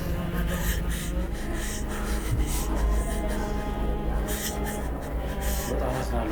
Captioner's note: crying